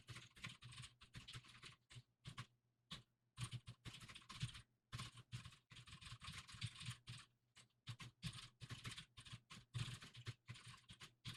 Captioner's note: typing sounds